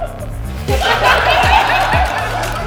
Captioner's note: audience laughter